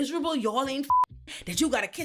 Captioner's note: beep